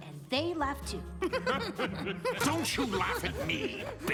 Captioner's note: laughter